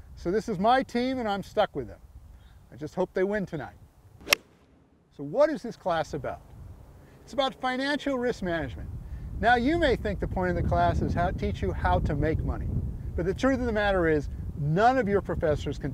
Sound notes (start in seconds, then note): 4.2 swack